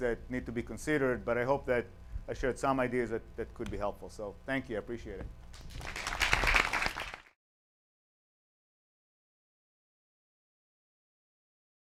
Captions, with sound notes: that need to be considered but I hope that I shared some ideas that could be helpful. So thank you, I appreciate it. (applause)